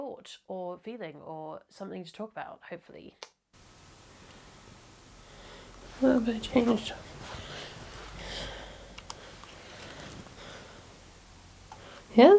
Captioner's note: click